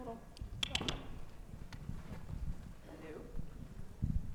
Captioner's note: mic clicking